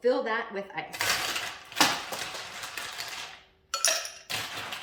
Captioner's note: ice crackling